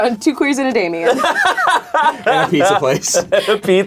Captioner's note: laughs